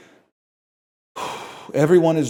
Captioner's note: breathes out